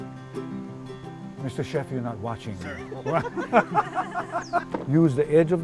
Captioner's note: laughter